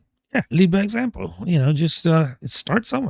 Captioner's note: uh